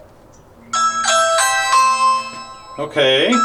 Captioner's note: ringing